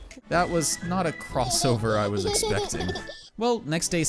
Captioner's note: baby giggling